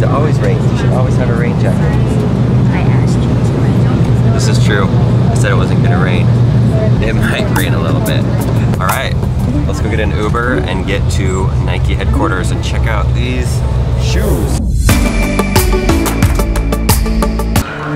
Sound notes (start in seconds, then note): 7.1 laughs; 14.8 upbeat pop music